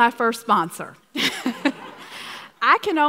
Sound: laughs

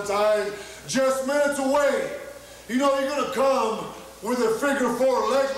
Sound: crowd yells in excitement

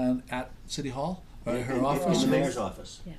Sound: voiceover

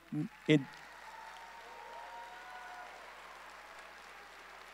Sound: audience cheering

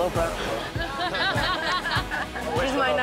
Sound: laughter

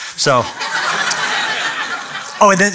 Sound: laughter

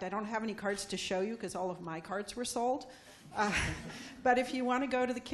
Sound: laughing

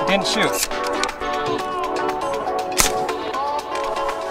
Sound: clicking

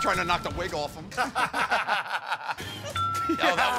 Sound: laughter

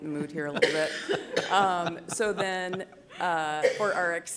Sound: laughter

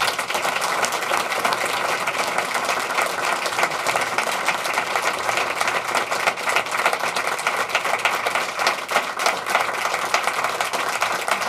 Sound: applauding

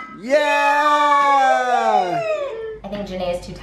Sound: cheers

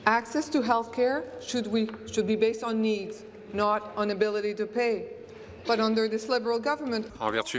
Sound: speaking in French

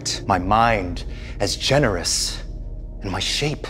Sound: none

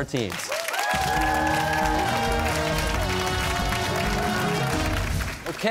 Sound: cheers and applause

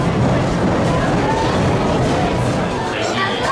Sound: laughing

